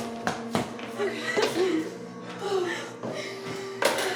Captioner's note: both heaving